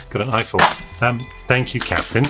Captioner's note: glass breaking